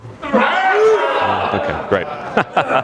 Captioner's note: crowd cheers